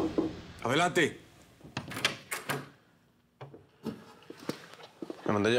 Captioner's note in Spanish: toques en la puerta